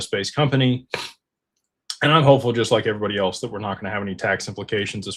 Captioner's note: snorts